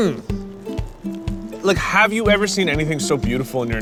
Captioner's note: moans with pleasure